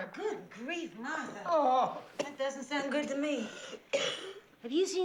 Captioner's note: groans; coughs